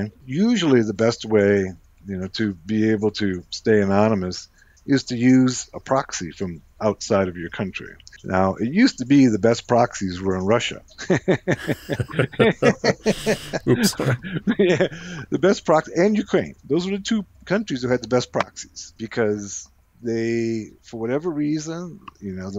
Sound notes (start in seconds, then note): 11.0 both laughs